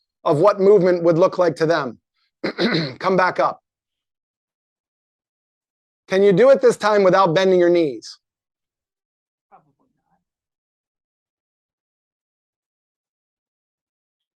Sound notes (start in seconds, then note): 9.7 faintly speaking